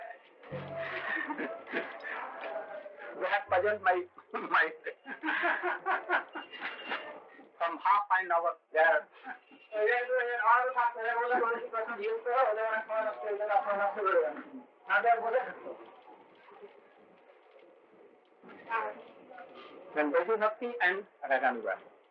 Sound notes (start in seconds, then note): 4.1 laughter; 9.3 Hindi